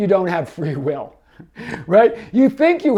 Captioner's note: laughs